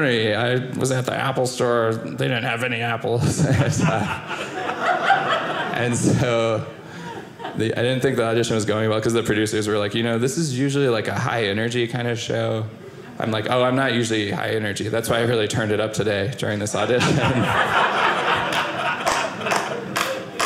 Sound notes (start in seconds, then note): 16.8 audience laughing